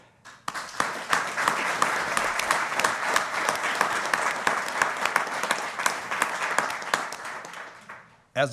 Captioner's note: applause